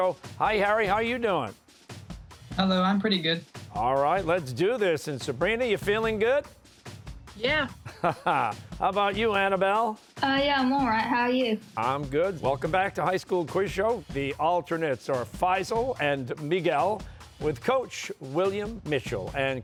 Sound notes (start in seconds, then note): 7.8 laughs